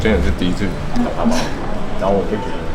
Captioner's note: the photographer laughs mysteriously??